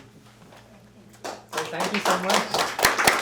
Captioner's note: applause